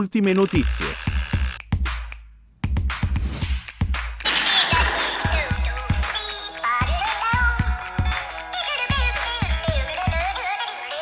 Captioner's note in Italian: Applauso